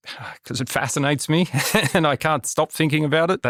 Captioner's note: laughter